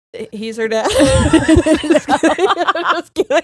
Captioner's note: both laughing